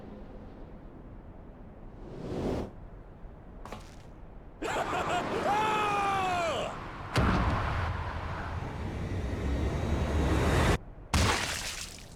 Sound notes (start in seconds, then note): 4.6 laughs; 4.6 screams